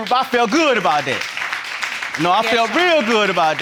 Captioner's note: audience applauding